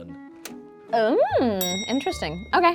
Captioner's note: bell clicking sound